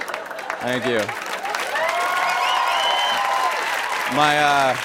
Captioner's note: cheers and applause; laughter and applause